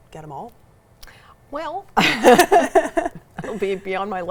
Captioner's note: pair laughs